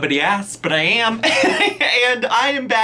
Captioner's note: laughs